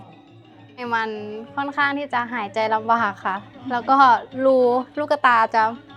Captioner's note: speaking foreign language